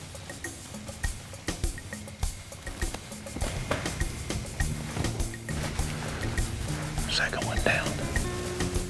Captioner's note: whispering